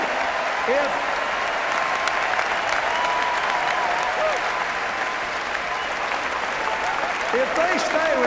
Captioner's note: applause